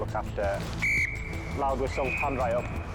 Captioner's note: whistle tweeting